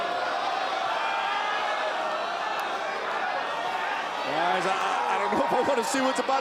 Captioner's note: crowd cheering